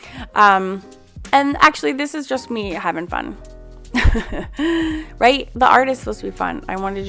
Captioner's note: chuckles